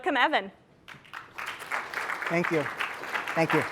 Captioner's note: applause